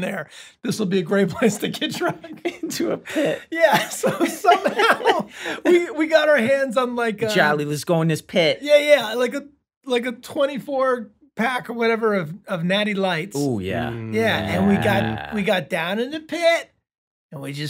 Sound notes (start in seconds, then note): 4.0 laughing